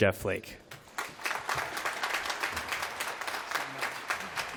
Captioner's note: applause